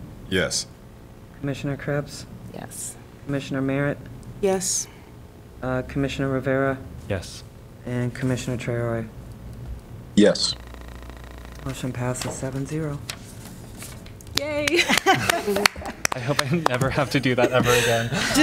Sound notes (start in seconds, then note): 13.0 laughter; 14.4 applause; 17.2 laughter